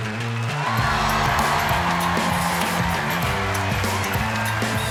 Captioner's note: audience roars